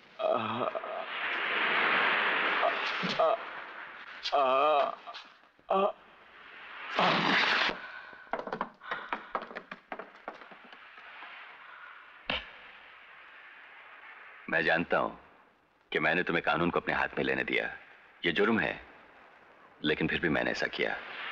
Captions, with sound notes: (Groans) (Groans) I know that I allowed you take law in your hands. It is a crime but still I did it.